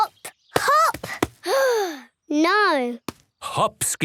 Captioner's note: sigh